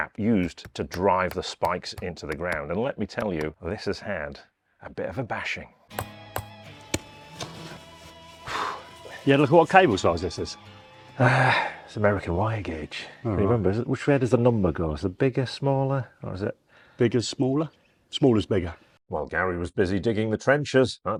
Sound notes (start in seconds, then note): 5.9 hammer tapping; 8.4 sighs